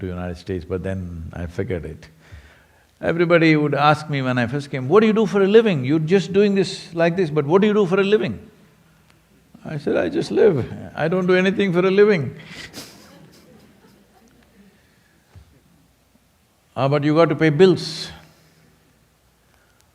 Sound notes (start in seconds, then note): 15.7 laughs